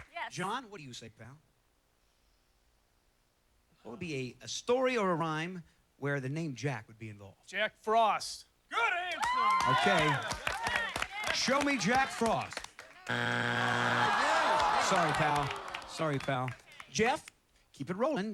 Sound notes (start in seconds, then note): 13.0 buzzer